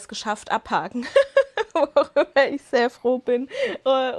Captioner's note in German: Lachen